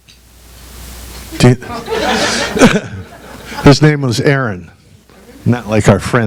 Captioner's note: audience laughs